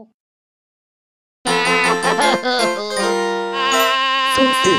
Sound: happy crying

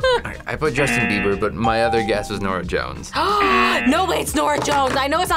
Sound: laughs; gasps

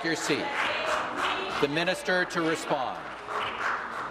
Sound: voice trailing

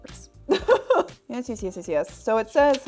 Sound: laughs

